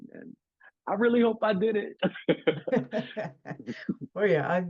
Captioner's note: laughs